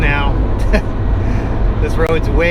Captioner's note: laughs